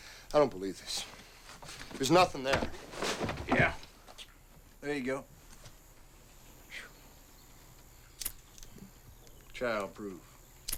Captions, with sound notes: - I don't believe this. There's nothing there. - Yeah, there you go. (lighter clicks) Child proof.